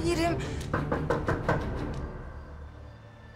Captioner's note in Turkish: Kapı çalar